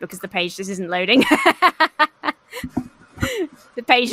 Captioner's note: laughs